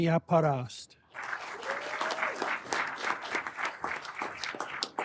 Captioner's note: everyone applauding